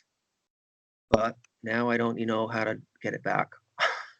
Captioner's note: laughter